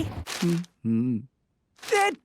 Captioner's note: humming